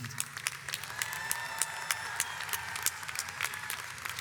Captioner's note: audience applauds